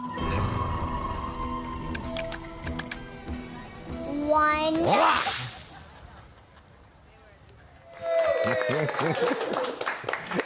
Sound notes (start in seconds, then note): 7.9 applause; 8.5 laughter